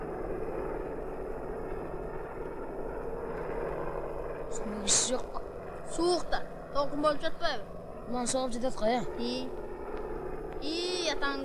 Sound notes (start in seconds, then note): 8.2 the wind